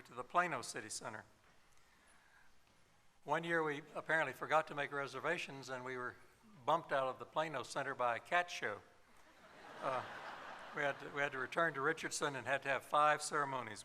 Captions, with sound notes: When we got bigger, we moved to the Plano City Center. One year we apparently forgot to make reservations, and we were bumped out of the Plano Center by a cat show. [laughter]